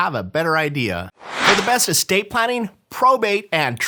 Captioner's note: swooshing